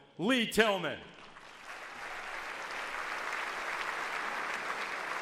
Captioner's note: audience applauds